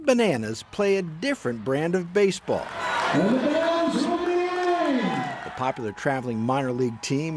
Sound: applause

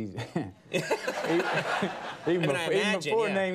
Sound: Conan O'Brien laughs; studio audience laughs

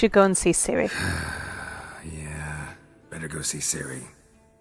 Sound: frustrated sigh

